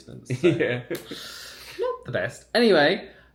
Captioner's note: laughs